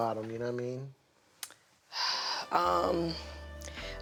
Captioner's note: sighs